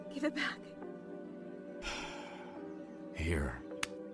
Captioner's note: sighs